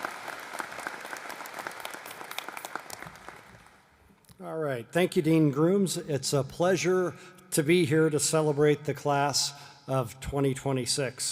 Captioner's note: applause